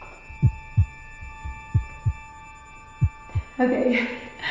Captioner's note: heartbeat